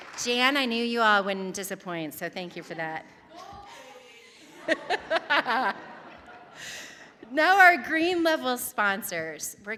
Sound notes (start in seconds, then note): 0.0 audience applauding; 0.0 audience cheering; 3.7 laughing